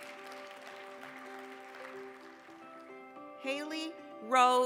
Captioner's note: applause